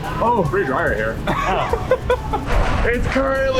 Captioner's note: laughs